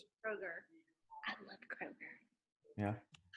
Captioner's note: whispering